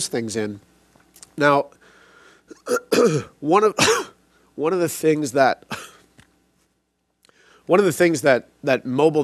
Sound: clears throat; coughs

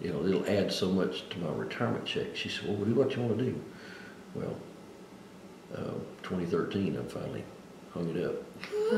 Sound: laughs

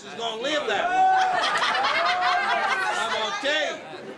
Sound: laughter

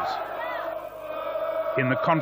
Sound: chanting

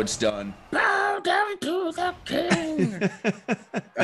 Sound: laugh

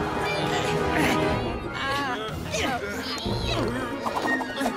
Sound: all straining

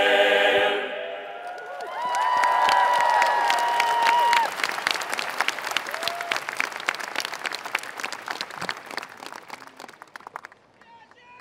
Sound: applause

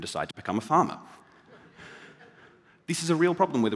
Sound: laughter

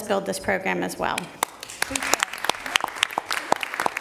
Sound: applause

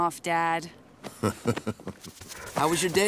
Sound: chuckles

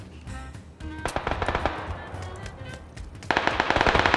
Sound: a near gunshot!

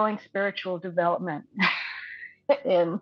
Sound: laughing

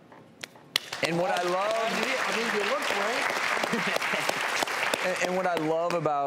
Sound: audience applauding

